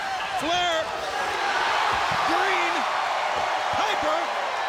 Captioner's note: audience cheering